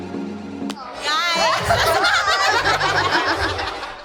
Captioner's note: laughs